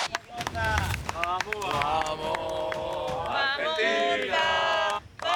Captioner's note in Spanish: aplausos